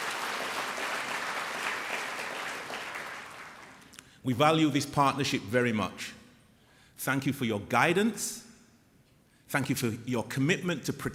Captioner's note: applause